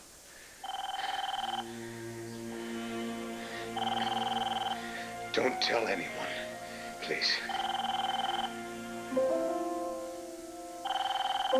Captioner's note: telephone rings